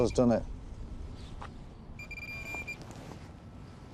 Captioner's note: detector beeping rapidly